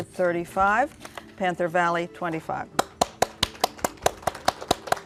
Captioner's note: applause